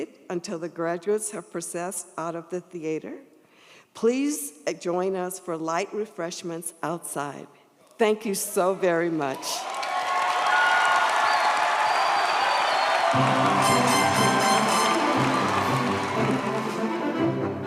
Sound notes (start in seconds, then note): 9.1 audience applauds; 9.3 audience cheers; 14.9 upbeat music